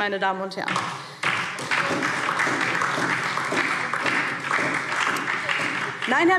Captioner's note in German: Beifall DIE LINKE und vereinzelt SPD